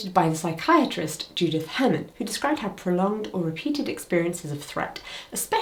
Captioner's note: none